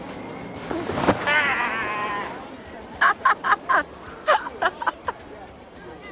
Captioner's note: thuds; laughs